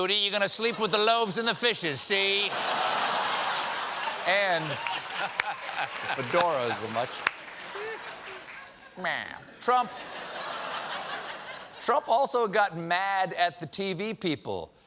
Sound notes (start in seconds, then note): 4.1 applause; 4.1 laughter